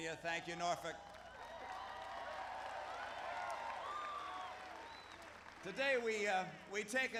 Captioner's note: applause